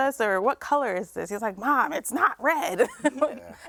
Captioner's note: laughs